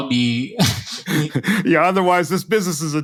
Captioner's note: laugh